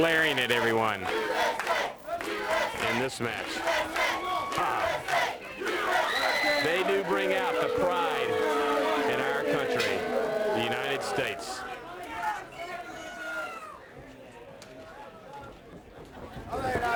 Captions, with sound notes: NIKITA GLARING AT EVERYONE. >> [CROWD CHEERING] >> [CROWD CHATTER]